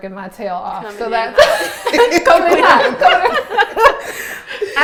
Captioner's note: laughs